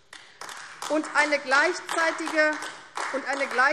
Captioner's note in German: Beifall AfD